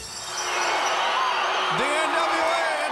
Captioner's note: crowd cheering